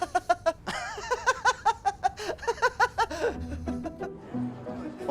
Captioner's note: laughing